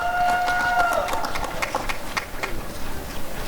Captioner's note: applause and cheering